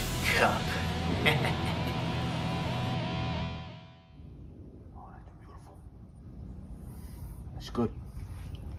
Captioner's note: chuckles